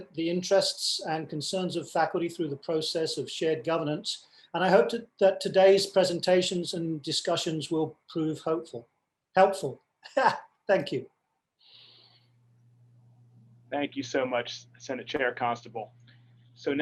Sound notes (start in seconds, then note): 9.9 laughs